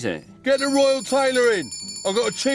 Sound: bell ringing

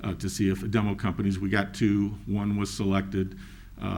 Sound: none

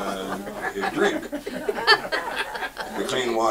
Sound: audience laughs

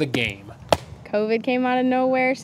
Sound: ball thuds

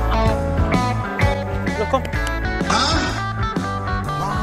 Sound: clapx2

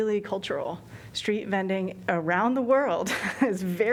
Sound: laughter

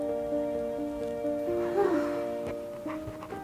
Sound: sigh

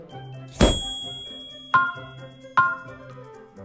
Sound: chiming

